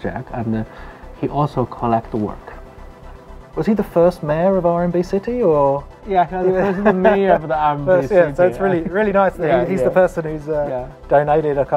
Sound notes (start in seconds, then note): 6.5 chuckles; 6.6 laughs